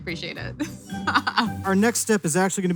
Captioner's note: laughs